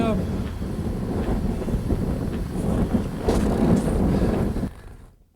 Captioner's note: air whooshing